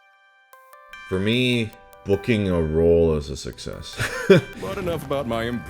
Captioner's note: laughs